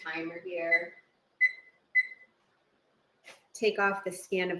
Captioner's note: oven beeping